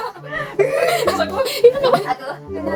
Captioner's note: laughter